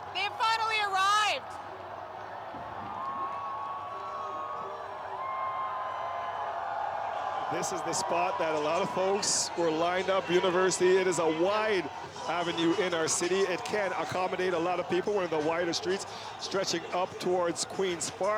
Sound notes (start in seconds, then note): 8.6 cheering; 9.0 yelling